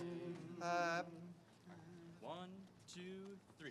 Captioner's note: all humming